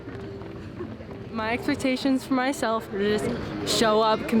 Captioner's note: feet pattering